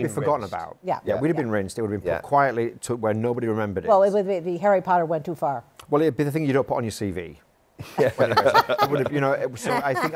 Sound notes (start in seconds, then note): 7.9 laughs